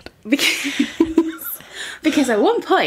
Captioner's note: laughing